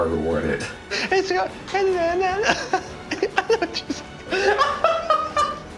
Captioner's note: laughing; directors laughing